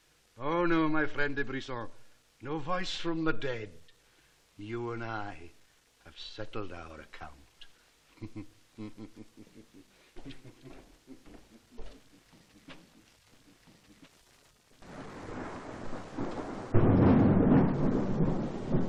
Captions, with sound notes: Oh, no, my friend de Brisson, no voice from the dead. You and l have settled our account. (CHUCKLING) (THUNDERCLAP)